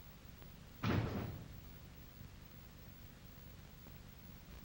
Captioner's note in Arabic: صوت انفجار من الطابق السفلي